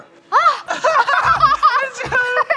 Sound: both laugh

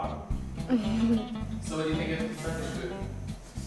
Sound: giggles

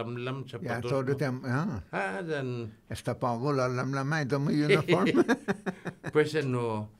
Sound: laughing

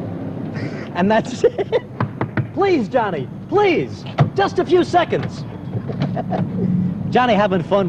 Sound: laughs

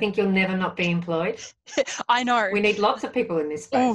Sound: laughs

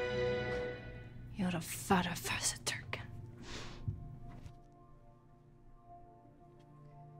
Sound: woman speaking in a foreign language

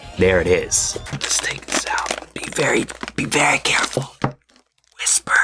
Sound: whispers

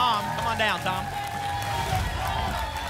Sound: applause and cheering; whoosh

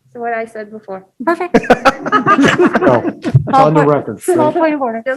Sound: laughing

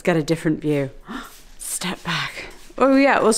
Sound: gasping

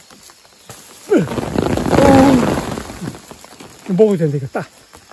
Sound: pouring rain

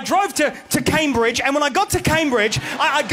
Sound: audience laughs

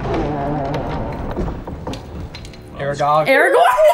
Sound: doors creaking

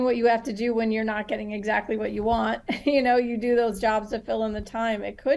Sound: chuckle

